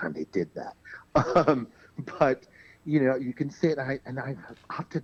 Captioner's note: laughs